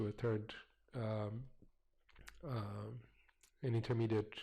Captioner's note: pause